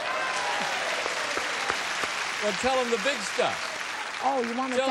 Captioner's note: applause, cheering